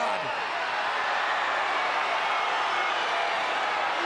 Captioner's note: crowd yelling